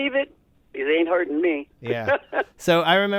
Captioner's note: laughter